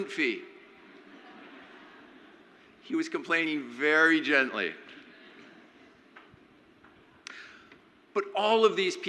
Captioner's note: crowd laughs